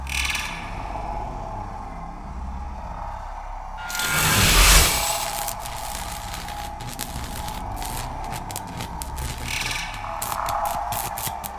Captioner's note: alien sounds